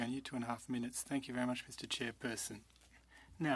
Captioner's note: speaking French